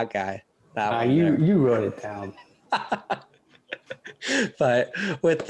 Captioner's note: laughter